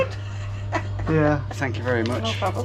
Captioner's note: shopkeeper laughs